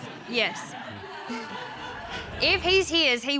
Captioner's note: audience laughing